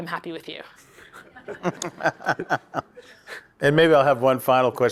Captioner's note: everyone laughs